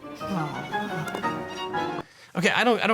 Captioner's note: arbitrator sighs